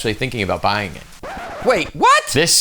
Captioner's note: record Scratch